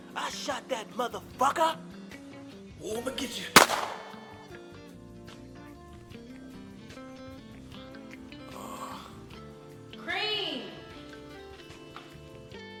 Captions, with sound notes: I shot that muthafucka! Whoa I'm get you! [gunshot] Creame!